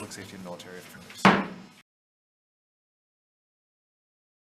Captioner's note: gavel taps